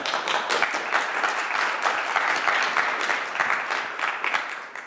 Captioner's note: applause